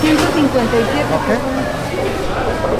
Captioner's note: server speaking in Spanish